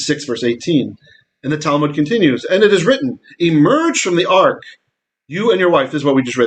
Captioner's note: Hebrew